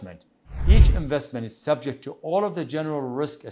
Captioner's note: wind whooshing